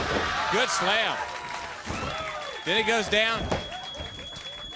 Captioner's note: crowd cheering